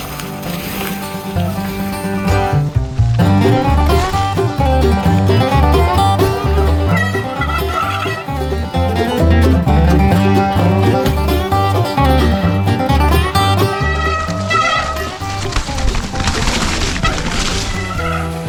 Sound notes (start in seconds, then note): 7.1 wheels screeching